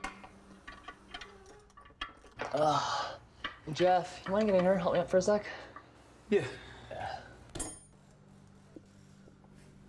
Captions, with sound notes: - (sighs) Hey Jeff, you wanna get in here and help me out for a sec? - Yeah.